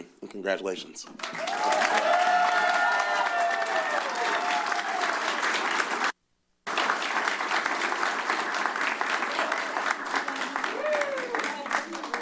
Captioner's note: cheers; applause